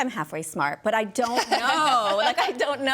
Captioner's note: laughing